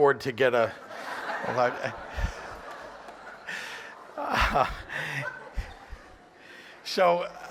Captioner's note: laughter